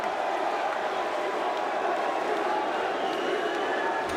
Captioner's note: crowd exclaiming